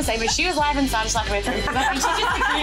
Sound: laughs

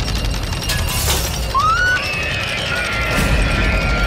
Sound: rattling; girl Screams

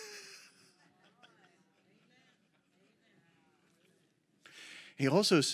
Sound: laughs; congregation shouts agreement

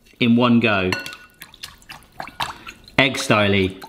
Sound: fluid splashing

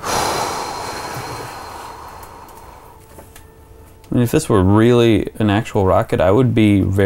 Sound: exhale

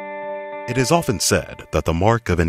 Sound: voiceover

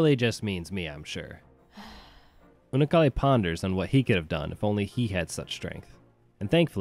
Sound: sigh

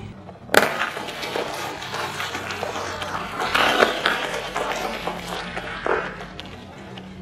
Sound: crunching egg shells

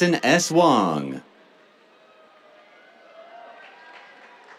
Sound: cheers

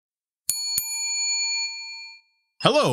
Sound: bell ringing

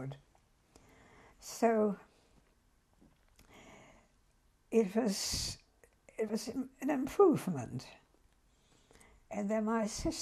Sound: pauses for 3 seconds

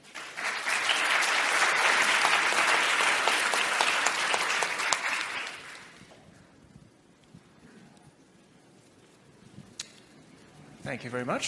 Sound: applause

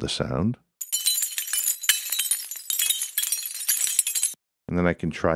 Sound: tile tinkling

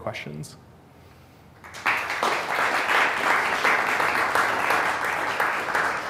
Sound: applause

